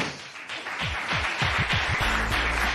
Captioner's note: applause